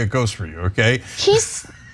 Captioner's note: laugh